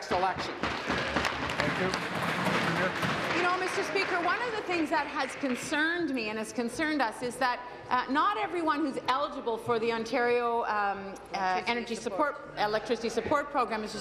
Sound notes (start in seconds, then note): 4.1 applause